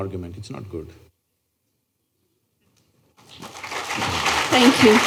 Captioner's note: applause